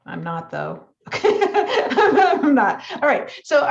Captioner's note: laughs